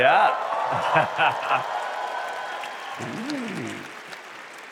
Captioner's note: applause